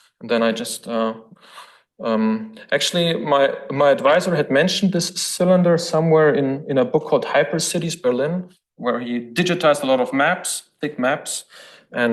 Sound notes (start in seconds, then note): none